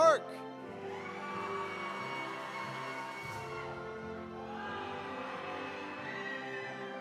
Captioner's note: audience cheering; audience applauding